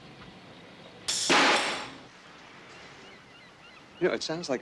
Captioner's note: wrench clanks